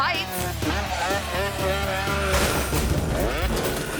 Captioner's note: motorcycle revving; motorcycle thuds